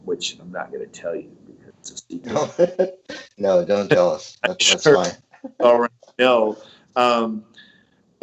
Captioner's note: laughs